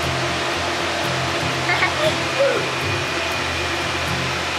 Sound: laughs

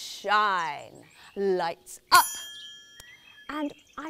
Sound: ping!

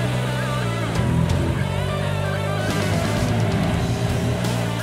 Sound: upbeat music; motorcycle rattling

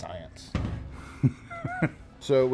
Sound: laughs

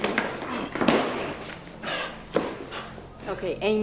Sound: grunting; panting

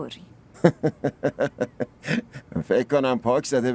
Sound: laughs

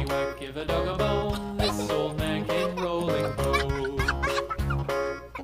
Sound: child laughing

